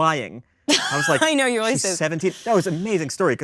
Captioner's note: laughs